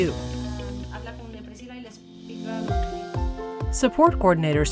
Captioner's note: speaking in foreign language